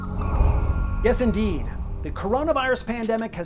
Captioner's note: whooshing